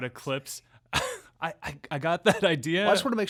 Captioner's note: laughing